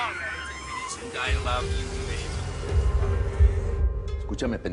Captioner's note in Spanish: Habla entre dientes